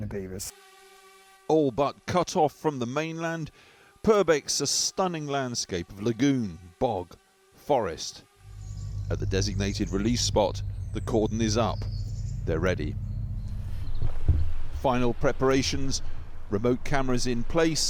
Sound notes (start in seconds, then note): 1.9 voice-over